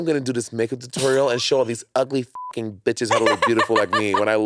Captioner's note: beep; laughing